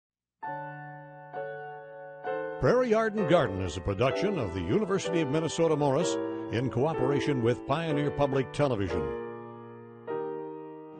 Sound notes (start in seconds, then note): 0.9 slow piano music; 2.7 voiceover